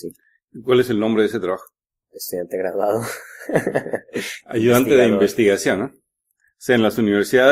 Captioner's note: laughs